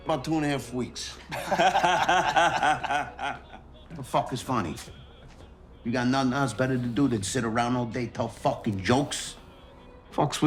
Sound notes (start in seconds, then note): 1.2 mobsters laughing